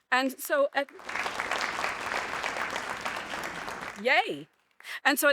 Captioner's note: audience applauding